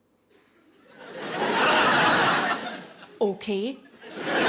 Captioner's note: audience laughing